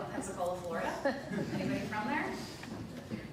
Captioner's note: light laughter